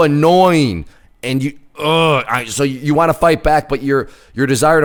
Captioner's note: groans